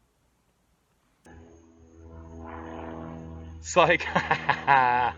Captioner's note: engine roaring